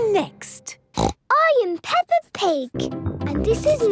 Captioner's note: snorts